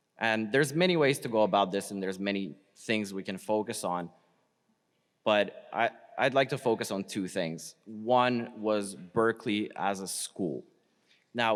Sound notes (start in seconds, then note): none